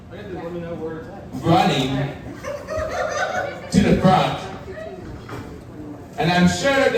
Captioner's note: audience laughing